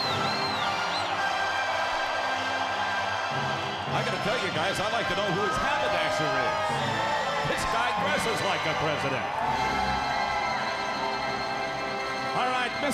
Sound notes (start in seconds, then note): 2.9 crowd cheering